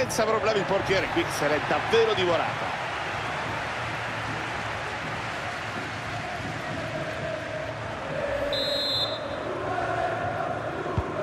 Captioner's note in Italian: Applauso